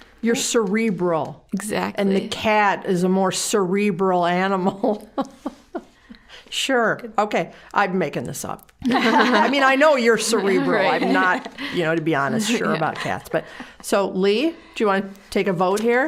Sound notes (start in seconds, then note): 4.8 chuckling; 8.8 all laughing